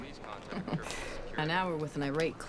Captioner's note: Roberta chuckles